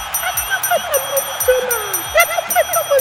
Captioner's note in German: Glockenschlags repeatedly